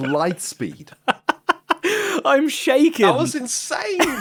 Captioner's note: laughs